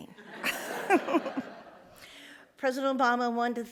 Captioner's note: all laugh